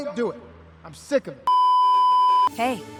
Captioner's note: beeeeeeeeeeeep